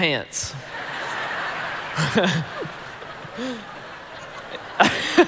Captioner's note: congregation laughing